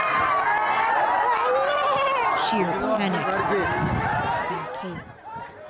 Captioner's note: screaming